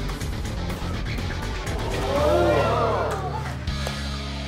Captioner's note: crowd reacts